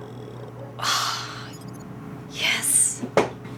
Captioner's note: sighs